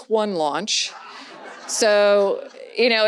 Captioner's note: audience laughs